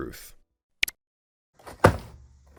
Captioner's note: button click